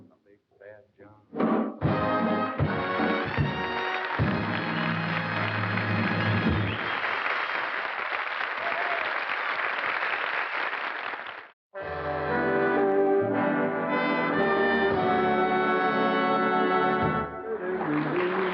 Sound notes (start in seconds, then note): 2.9 applause